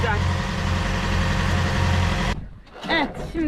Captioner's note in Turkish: Motor sesi